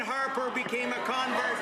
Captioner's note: some Applause